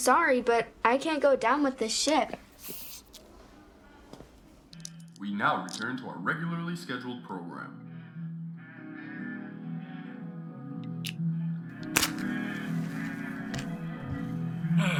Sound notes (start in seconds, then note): 9.3 TV blaring